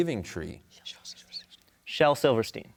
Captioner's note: whispers